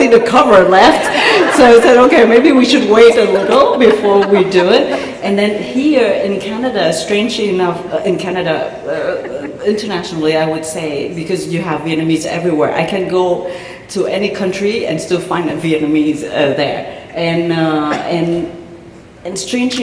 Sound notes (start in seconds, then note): 1.0 laughter